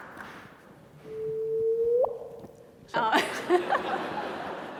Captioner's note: small drip noise